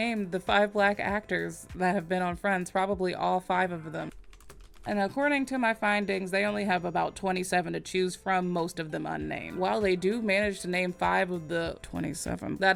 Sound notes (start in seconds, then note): 4.0 typing noises